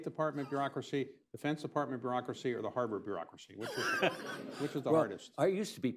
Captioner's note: laughter